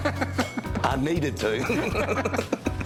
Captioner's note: laughter